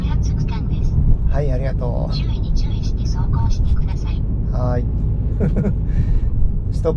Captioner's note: laughs